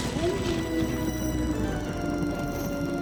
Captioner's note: thunder; wolf howl